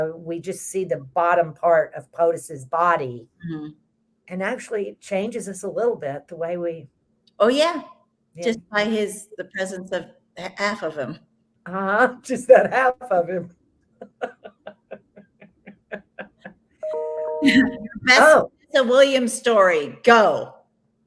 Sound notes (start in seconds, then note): 14.0 both laughs